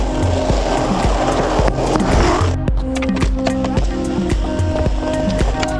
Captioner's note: skateboard wheels grinding